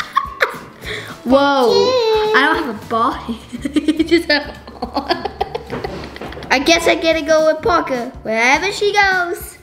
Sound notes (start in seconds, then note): 4.5 laughter